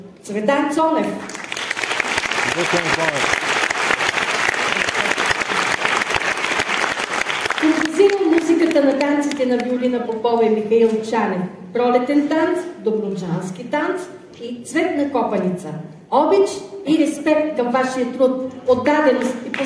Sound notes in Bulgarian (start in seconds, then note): 1.2 аплодисменти